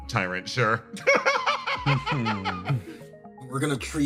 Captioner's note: laugh